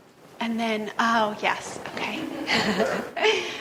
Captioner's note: laughs